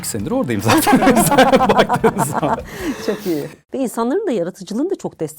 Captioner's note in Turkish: kahkaha